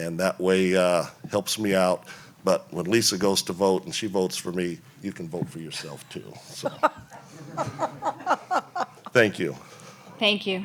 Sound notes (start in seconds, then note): 6.6 laughs